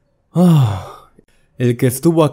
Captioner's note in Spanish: Suspiro